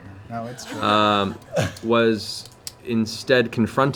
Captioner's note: laughter